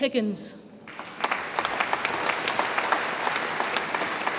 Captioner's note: audience applauds